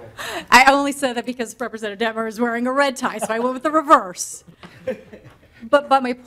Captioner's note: laughter